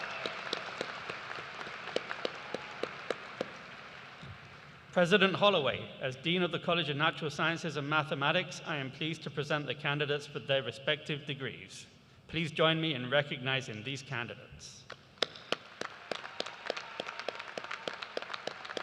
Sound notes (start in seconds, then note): 0.0 cheers and applause